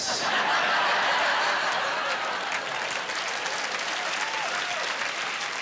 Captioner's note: laughing, applause